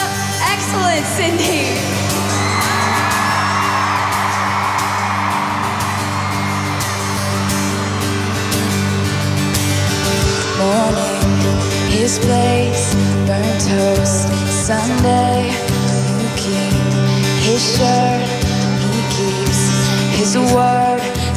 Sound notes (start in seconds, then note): 1.8 cheers and applause